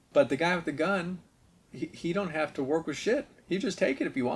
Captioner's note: none